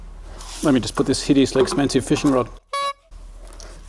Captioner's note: beep